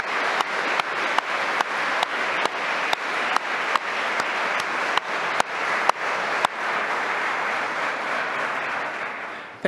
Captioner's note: applause